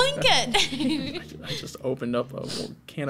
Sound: all laughs

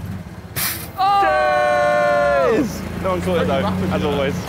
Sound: Sidemen yelling

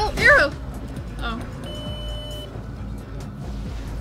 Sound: beep

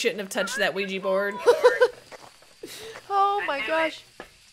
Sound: laugh

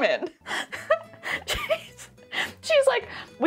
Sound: laughing

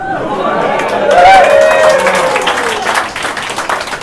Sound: laughter, Cheering, and Clapping

